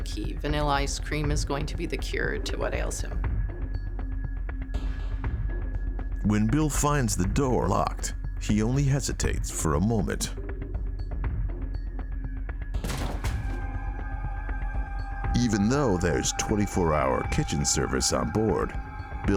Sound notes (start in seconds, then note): 12.8 door crashing; 13.4 tense eerie music